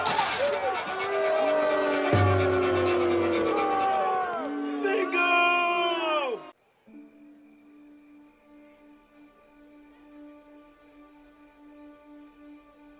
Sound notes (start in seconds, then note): 0.0 cheering; 0.3 power zapping; 1.6 crowd booing; 8.6 somber music